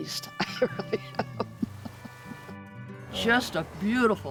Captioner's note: chuckling